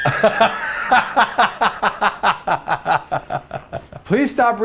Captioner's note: laughs